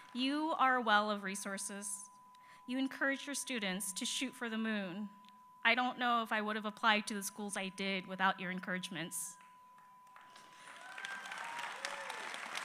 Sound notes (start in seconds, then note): 0.0 applause